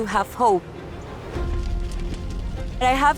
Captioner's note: fire crackling